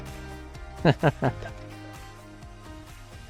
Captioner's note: chuckles